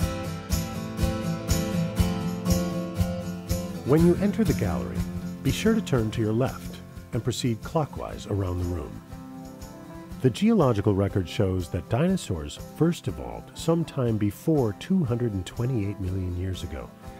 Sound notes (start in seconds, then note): 0.3 upbeat guitar music; 4.1 voiceover